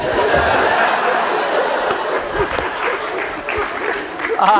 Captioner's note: laughter